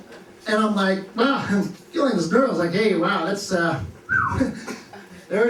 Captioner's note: whistles